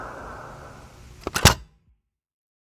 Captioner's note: Lizzie roaring in the distance; cassette tape ejects